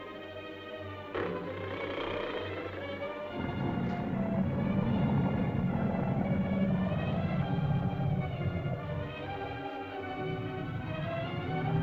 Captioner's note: suspenseful music; lizard growls